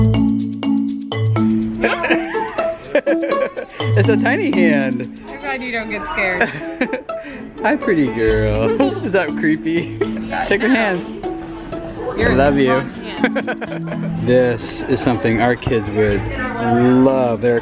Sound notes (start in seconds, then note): 1.8 laughs; 6.2 laughs; 13.2 laughs